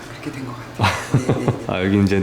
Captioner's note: laughs